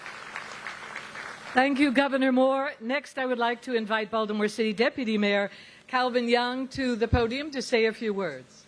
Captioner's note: applause